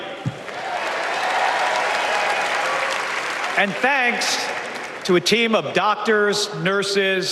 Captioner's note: applause